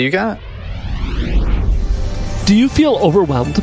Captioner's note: electronic whooshing